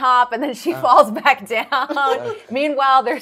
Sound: laughs

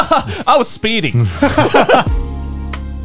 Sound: laughing; gentle music

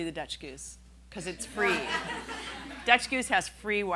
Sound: laughing

